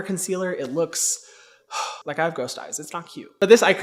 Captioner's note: sighs